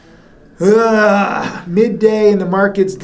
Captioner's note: groans